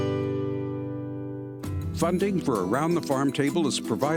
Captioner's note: voiceover